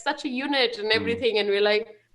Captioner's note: laughing; chuckles